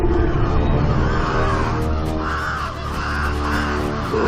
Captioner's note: panicked squawking